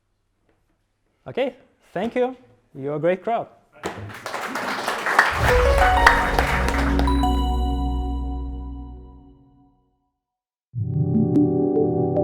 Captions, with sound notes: - Okay. Thank you. You were a great crowd. (crowd applause) (melodious music)